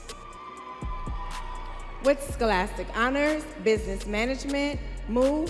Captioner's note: students cheering